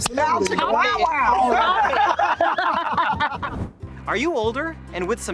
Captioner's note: all laughing loudly